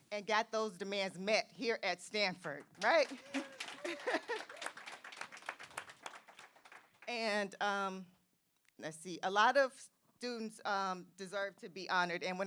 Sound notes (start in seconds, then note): 2.8 audience applauding; 3.2 audience cheering